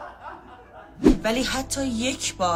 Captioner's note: laughter